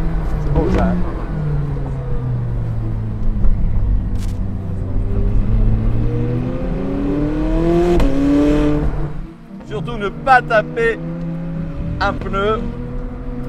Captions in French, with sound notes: Beau, hein ? [Vrombissement des moteurs] Surtout, ne pas taper un pneu !